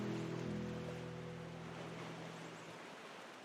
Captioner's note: gentle waves